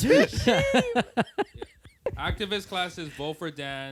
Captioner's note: laughter